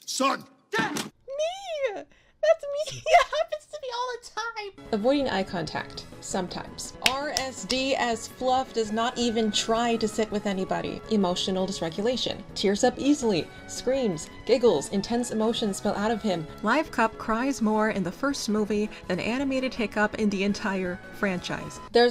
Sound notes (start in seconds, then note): 2.8 Tori, laughing; 4.7 normal voice; 7.0 clapping